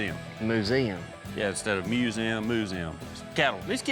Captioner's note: none